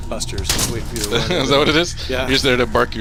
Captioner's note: laughing